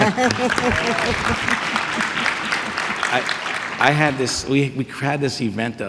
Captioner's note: audience clapping